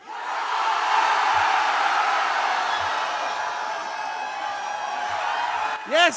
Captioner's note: screaming